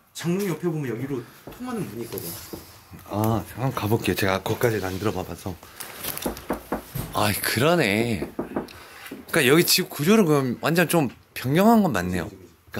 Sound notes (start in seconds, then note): 6.2 knocking the wall